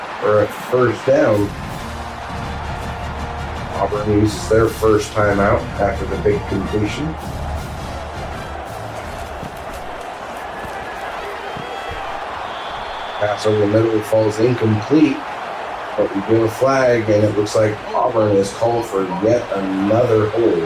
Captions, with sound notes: Or at first down, Auburn uses their first time out after the big completion. [Crowd Noises] Passover literally falls incomplete. But we do a flag and it looks like Auburn has called for yet another hold.